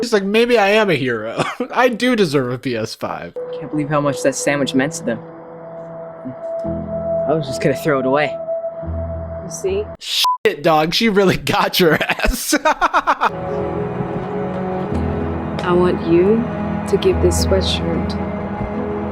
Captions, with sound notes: - He's like, "Maybe I am a hero. I do deserve a PS5." - I can't believe how much that sandwich meant to them. And I was just gonna throw it away. - You see? - (beep) dog, she really got your ass. (laughs) (dramatic music) - I want you to give this sweatshirt